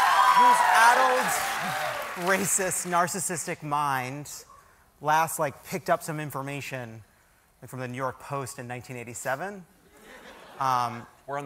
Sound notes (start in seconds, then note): 2.5 cheers and applause